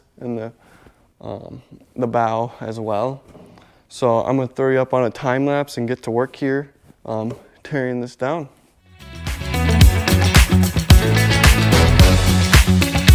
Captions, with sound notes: and the the bow as well. So, I'm gonna throw you up on a time lapse and get to work here, (hand tapping) tearing this down. (upbeat music)